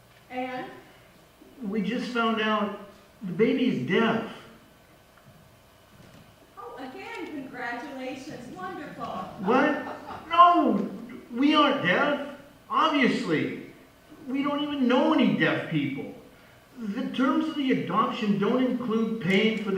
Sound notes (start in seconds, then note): 1.6 voice on phone; 9.4 voice on phone